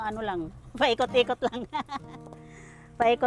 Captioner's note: laughs